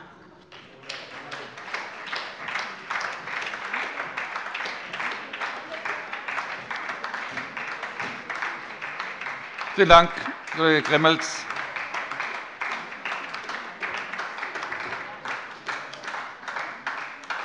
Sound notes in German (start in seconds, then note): 2.3 Beifall bei der SPD